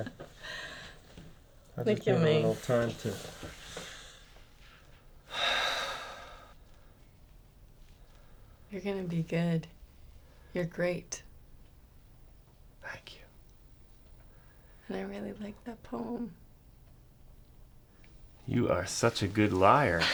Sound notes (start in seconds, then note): 0.3 laughs; 5.3 exhales heavily; 19.8 chuckles